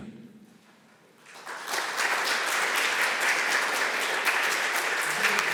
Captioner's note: applause